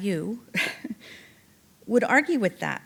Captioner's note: chuckling